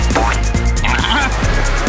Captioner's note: baaing